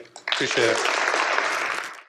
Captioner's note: applause